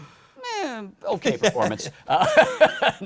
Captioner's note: laughter